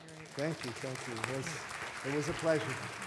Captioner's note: applause